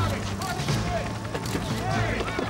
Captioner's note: car rumbling; hands thudding; press members shouting